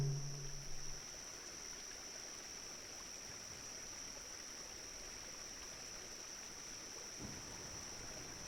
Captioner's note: sounds of flowing water